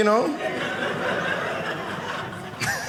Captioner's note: audience laughing